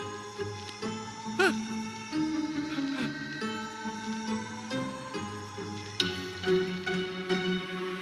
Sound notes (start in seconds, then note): 1.4 groans; 3.7 thrilling music